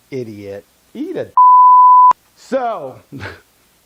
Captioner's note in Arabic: صوت تنبيه